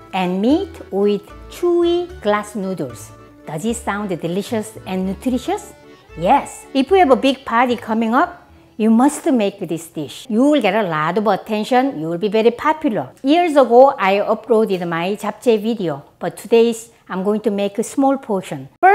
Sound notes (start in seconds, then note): none